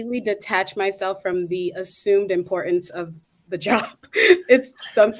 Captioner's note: laughing